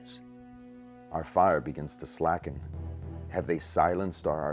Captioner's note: voiceover